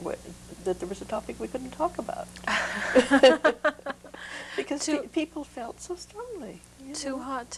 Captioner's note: laughter